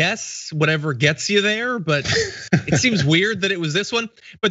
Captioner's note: laugh